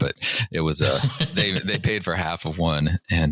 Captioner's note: laughter